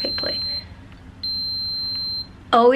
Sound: pump beeping

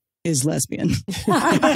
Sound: laughing

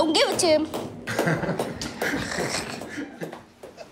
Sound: laughing

